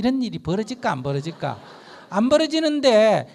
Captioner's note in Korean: 청중 웃음